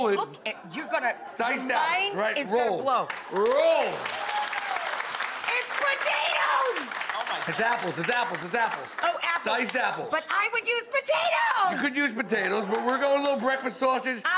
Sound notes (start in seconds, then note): 3.2 audience cheers